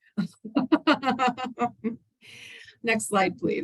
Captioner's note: laughs